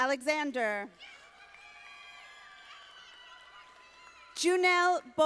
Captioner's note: audience applauding